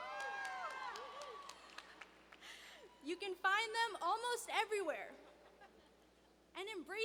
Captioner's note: cheers and applause